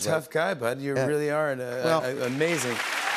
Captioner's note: cheers and applause